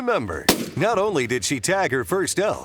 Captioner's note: gun shot pops